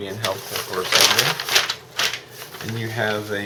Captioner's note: rustling paper